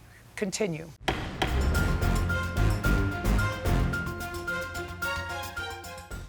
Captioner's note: gavel banging; dramatic music